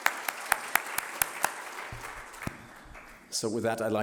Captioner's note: applause